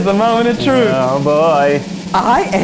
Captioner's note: laughs